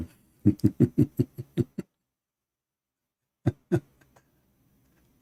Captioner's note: Ketawa